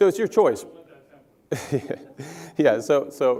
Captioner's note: laugh